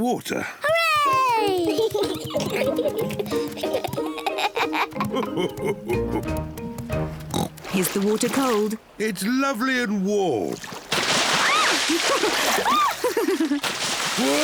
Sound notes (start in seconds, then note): 1.5 both giggling; 5.0 daddy pig laughing; 7.3 oinks; 11.1 yelps; 11.9 both laugh